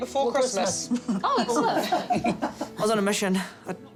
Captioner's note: giggles